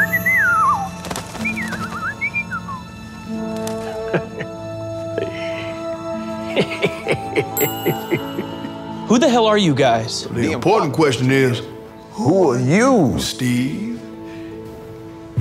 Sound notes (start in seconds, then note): 0.0 repairman whistling; 1.6 bird whistling; 6.4 repairman laughing; 7.6 ding